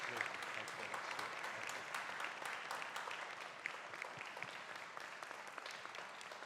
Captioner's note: audience applauding